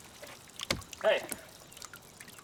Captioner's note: water splashing